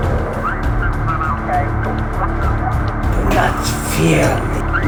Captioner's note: radio chattering